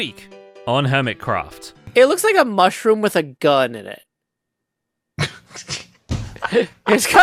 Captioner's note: laughs